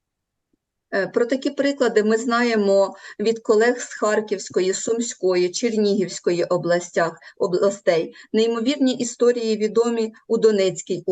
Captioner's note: foreign Language